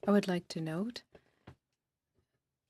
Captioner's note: speaking French